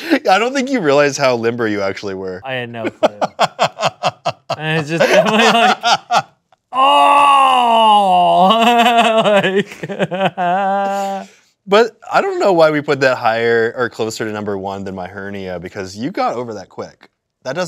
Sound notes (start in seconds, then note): 2.8 laughing; 8.3 laughs